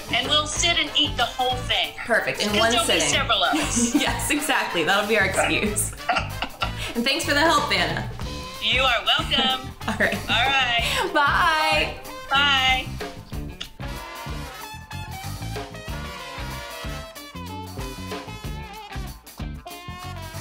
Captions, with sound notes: - And we'll sit and eat the whole thing. - Perfect. In one sitting. - 'Cause there'll be several of us. - Yes, exactly. That'll be our excuse. And thanks for the help, Vanna. - You are welcome. All right. - Bye. - Bye. (smooches) (upbeat jazz music)